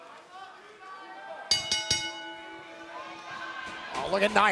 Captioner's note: bell ringing